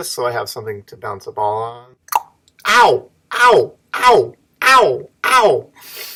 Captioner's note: sound of me saying Ouch repeatedly as ball hits my hands